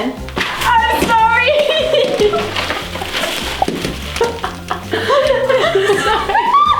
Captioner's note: laughing